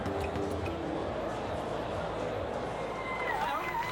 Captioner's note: people chattering